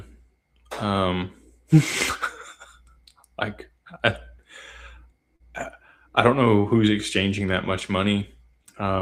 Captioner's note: laughter and snorts